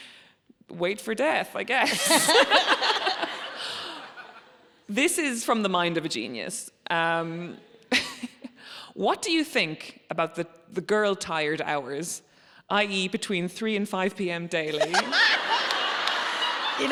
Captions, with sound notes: It's wait for death, I guess. (audience laughs) This is from The Mind of a Genius. "What do you think about the girl tired hours, i.e., between 3:00 and 5:00 PM daily?" (audience laughing)